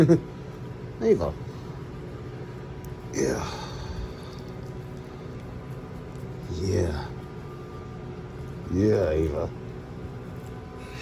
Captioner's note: laughs and giggles